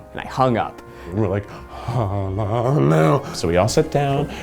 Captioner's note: excited noises